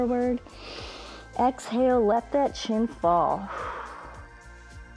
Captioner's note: inhales; exhales